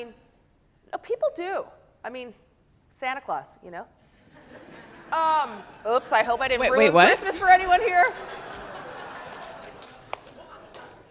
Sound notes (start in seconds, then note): 8.6 audience laughing